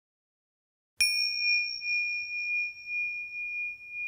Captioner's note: bell dings